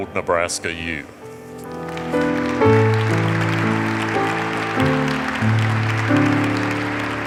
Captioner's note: peaceful piano music; audience applauds